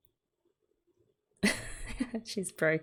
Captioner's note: laughs